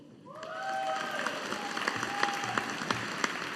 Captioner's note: audience applauding